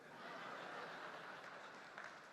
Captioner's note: audience laughing; audience applauding